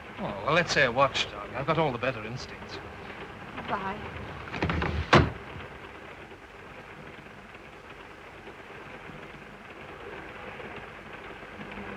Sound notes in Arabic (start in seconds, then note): 4.4 صوت الباب يغلق; 6.5 صوت خشخشة القطار